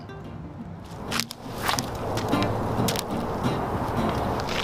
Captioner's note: clacking